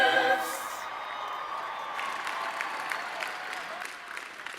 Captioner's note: audience cheering